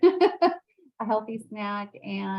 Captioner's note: laughing